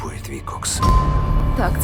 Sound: dings

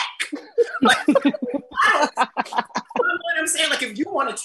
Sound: all laugh

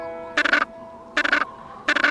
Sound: squawking

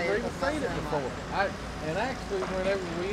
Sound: background chatter

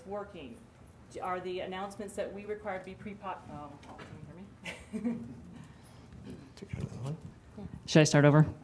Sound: laughs

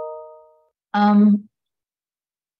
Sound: chime

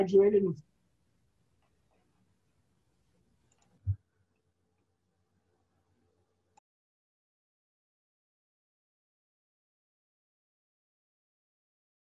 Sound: silence

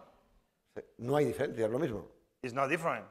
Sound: speaking spanish

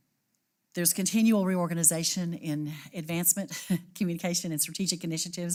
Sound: laugh

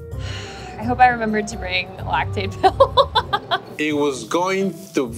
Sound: laughing

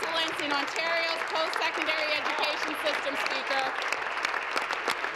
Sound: applause

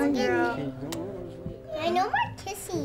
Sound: lips smacking

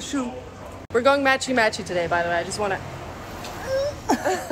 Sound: laughter

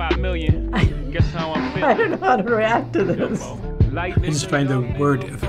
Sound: laughing

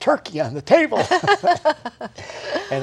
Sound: laughter

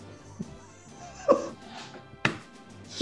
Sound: giggling

